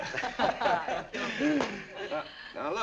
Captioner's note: slaps back